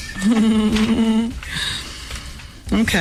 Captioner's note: laughter